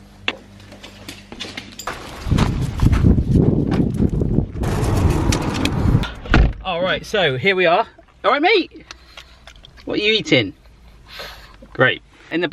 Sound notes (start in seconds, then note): 1.9 wind blowing; 4.6 car door slams